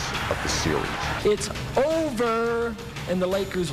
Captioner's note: players cheering